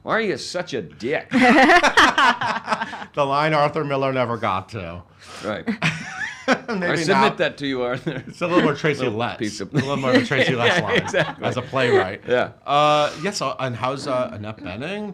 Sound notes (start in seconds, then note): 1.4 laughs; 9.7 laughs